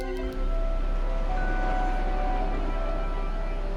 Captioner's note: airplane flying